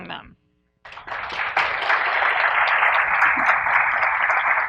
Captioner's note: audience applauds